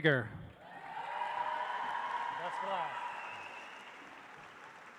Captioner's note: audience applauds